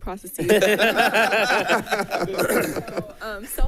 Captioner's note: people laughing